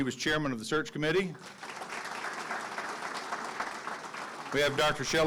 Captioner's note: audience clapping